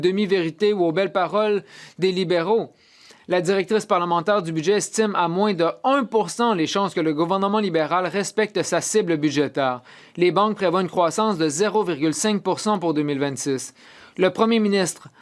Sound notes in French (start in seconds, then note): 0.1 voix de l'interprète